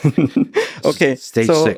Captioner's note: laughing